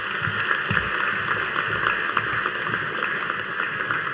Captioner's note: audience applauding